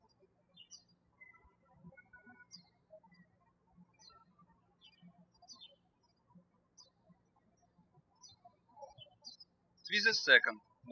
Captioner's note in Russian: птички щебечут